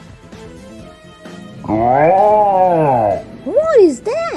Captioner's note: yells